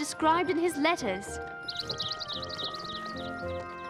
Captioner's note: chirping